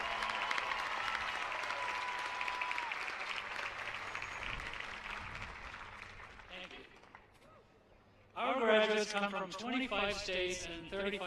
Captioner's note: applause